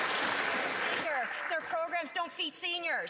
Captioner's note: some Applause